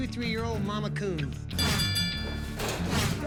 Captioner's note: bell dings